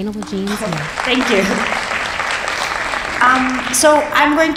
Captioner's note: audience applauding